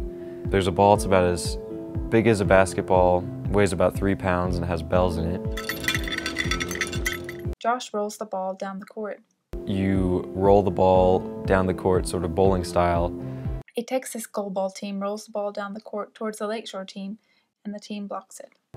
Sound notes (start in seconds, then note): 5.5 bells jingling